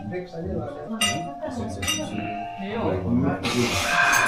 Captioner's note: throat burning